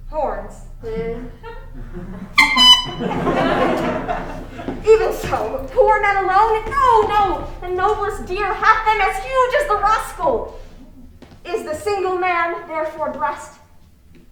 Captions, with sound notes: Horns? (horn tooting) (crowd laughing) Even so, poor men alone? No, no, the noblest deer hath them as huge as the rascal. Is the single man therefore blessed?